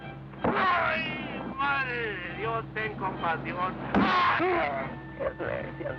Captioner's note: speaking spanish